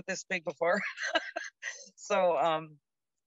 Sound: laughs

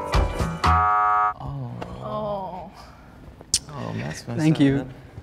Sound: buzzer sounds

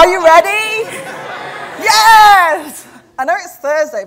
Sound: audience laughter

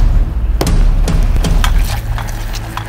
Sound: stir

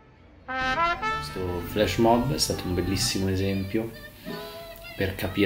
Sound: speaking foreign language

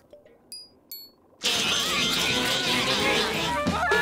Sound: repeating "meep" over and over; laughing

